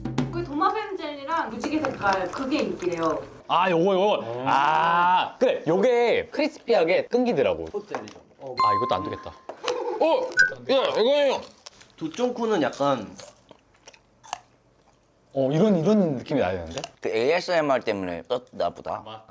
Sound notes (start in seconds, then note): 14.2 Crunch